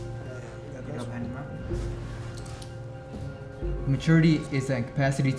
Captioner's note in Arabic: الناس يتحادثون